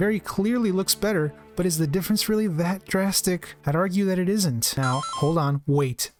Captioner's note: pause sound effect